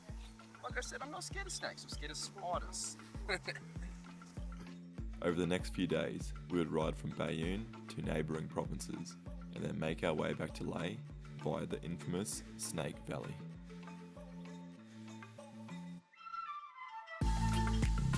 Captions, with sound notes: Like I said, I'm not scared of snakes. I'm scared of spiders. [LAUGHS] Over the next few days, we would ride from Baiune to neighboring provinces, and then make our way back to Lae via the infamous Snake Valley.